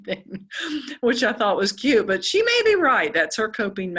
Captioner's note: laugh